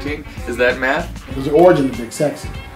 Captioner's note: none